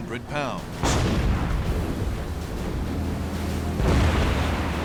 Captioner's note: explosions